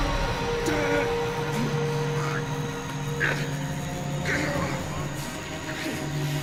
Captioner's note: electricity crackling; Lucian grunting